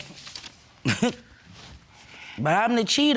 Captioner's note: scoffs